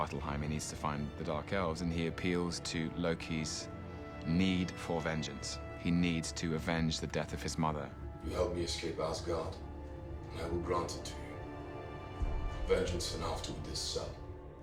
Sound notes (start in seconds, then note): none